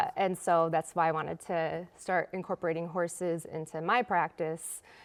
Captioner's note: none